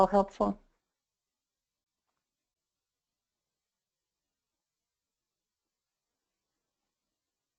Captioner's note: silence